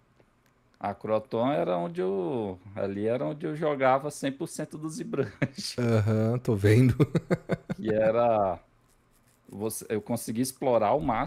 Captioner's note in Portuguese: risadas